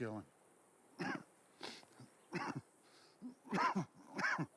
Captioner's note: man coughing